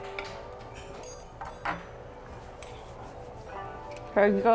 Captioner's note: silverware clatters